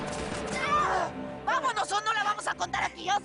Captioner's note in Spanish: Disparos; Quejidos